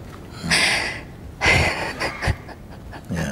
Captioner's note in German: Fragende lacht